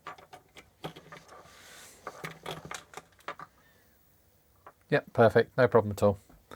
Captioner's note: silence